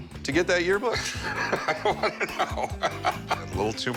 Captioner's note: laughs